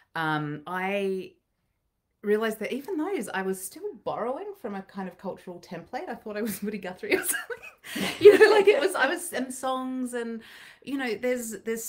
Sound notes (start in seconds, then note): 7.2 chuckling